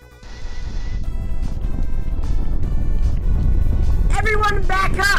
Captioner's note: rumbling starts; rumbling continues